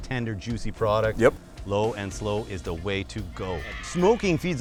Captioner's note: crowd cheers